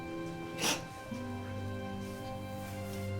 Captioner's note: crying